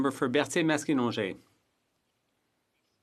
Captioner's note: speaking French